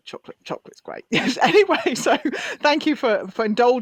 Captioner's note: laughs